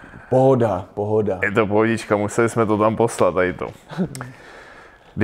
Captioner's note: laugh